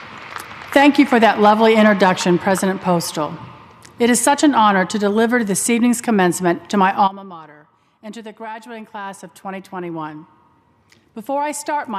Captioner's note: applause